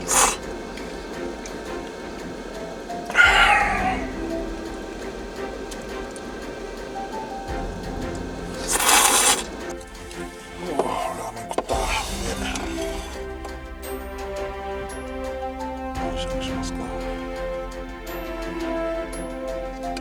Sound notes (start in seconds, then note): 13.3 laughs